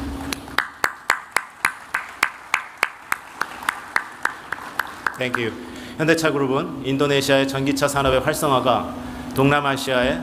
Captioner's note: T clap